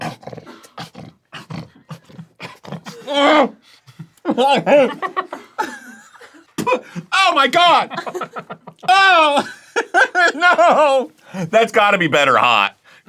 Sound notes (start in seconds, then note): 1.3 snorting; 3.0 muffled scream